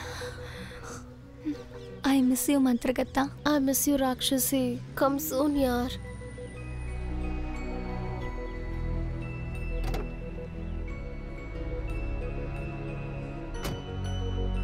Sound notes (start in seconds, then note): 9.6 car door opens; 13.5 door closes